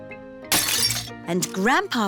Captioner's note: shattering